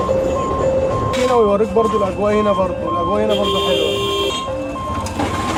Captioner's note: speaking Arabic